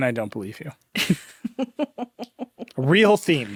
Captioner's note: chuckling